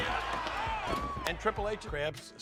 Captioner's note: screaming